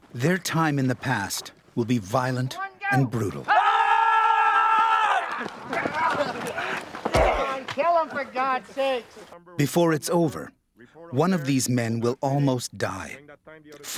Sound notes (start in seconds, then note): 0.3 voiceover; 3.4 screams; 5.7 grunts; 8.4 voiceover